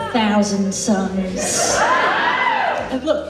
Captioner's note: audience Laughs